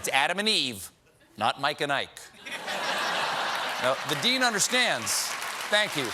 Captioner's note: applause; laughter